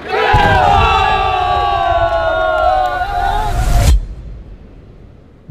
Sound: cheering

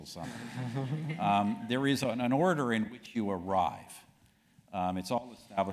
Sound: laugh

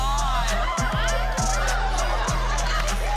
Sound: cheering

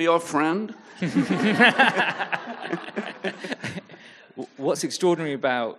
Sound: audience laughing

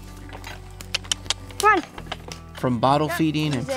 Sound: clicking with mouth

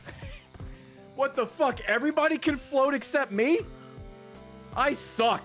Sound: laughs

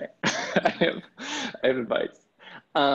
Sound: laughs

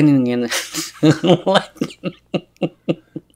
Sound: laughs

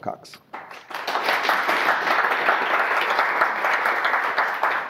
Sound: audience applause

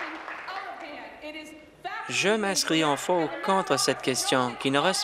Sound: applause

